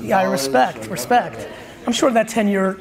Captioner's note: audience laughs